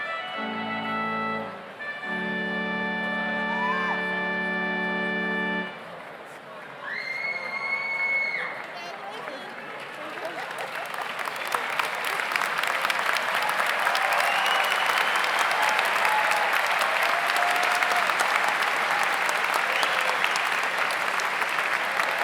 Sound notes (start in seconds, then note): 0.0 slow organ music continues; 7.4 audience cheers; 7.4 overlapping chattering; 11.3 audience applauds